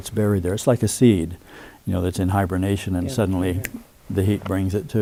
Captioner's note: snaps fingers